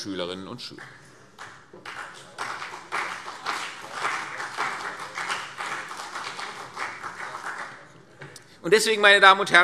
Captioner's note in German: Beifall CDU und BÜNDNIS 90/DIE GRÜNEN